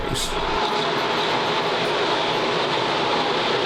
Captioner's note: cars racing